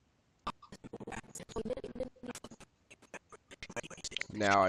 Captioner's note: audio skipping